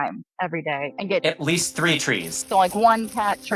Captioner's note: trees rustling